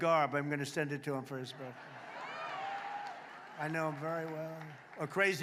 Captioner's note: applause